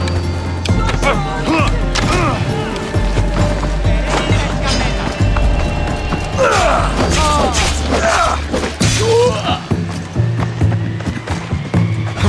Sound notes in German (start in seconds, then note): 0.0 stöhnen; 0.6 schreien